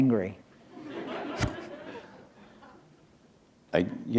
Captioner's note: laughter